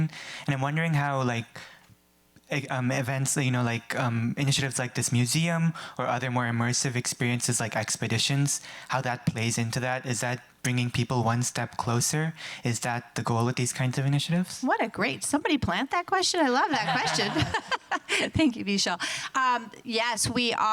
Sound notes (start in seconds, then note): 16.6 laughs; 16.6 audience laughing